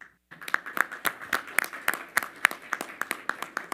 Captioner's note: all applaud